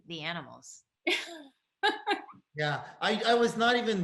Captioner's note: laughs